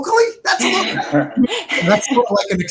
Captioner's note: murmuring